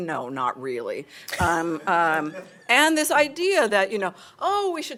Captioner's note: laughter